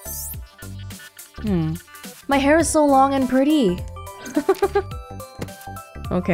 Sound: chuckles

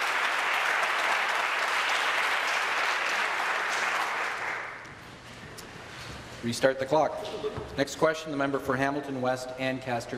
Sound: applause

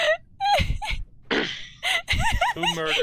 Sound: laughing; clears throat

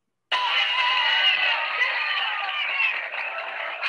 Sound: crowd jeering

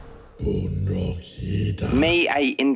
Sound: speaking with apprehension

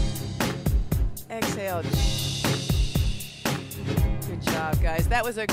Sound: hissing

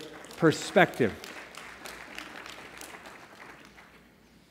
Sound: applause

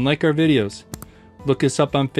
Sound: click

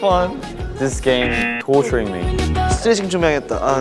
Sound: buzzer rings

